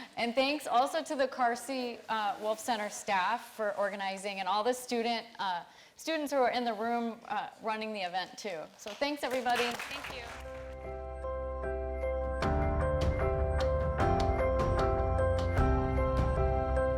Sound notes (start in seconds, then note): 10.5 audience clapping; 13.7 light upbeat music